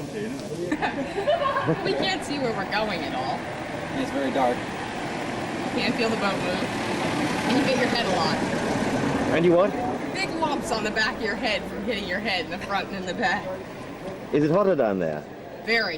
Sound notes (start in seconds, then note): 0.6 laughter